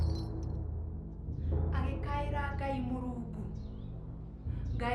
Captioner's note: foreign language in the distance